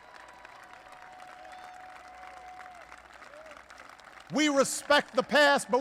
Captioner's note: applause